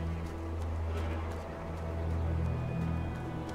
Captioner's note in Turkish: Koşma sesleri